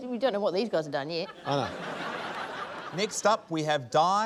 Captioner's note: laughter